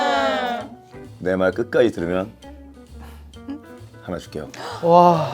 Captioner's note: haha; haha